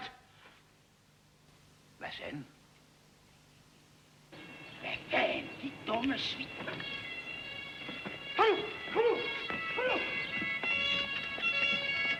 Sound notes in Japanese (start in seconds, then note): 8.1 パトカーのサイレンの音